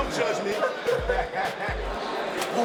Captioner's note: inmates laughing